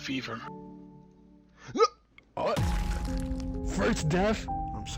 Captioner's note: body drops